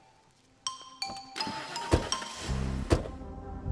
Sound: car door opens, closes; engine starts

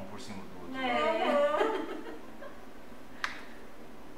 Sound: laughs

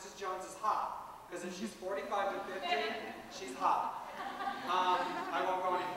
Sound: laughter

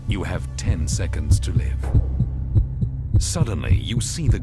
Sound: heartbeat speeds up

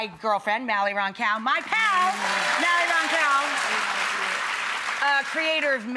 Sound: audience applauds

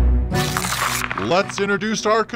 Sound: paper ripping

